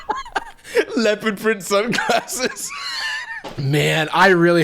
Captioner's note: laughing; laughing